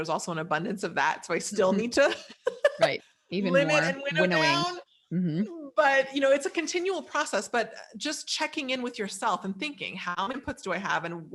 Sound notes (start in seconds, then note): 2.2 laughing